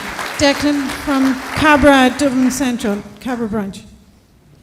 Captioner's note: applause